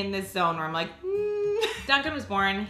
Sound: hums

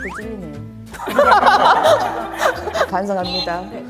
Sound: hahaha

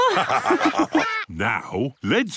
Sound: all laugh

